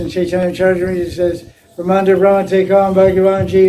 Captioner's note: Стих на санскрите